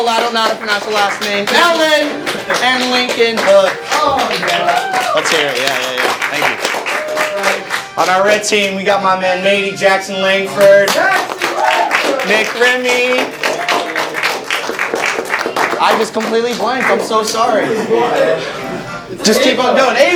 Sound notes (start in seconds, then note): 3.9 clapping; 6.8 cheers; 11.0 cheers; 13.3 clapping